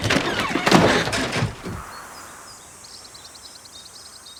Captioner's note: insects buzzing